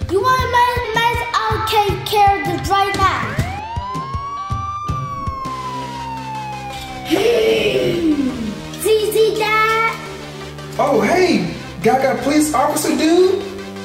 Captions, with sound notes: You wanna make a mess? I take care of it right now. (siren blaring) - (grunts) ZZ Dad. - Oh, hey, Gaga police officer, dude.